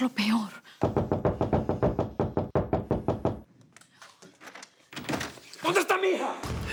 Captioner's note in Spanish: Toques en la puerta